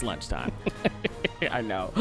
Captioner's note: laughs